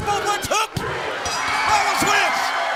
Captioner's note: crowd cheering; bell ringing